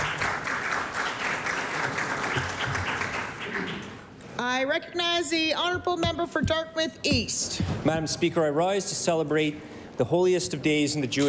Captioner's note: applause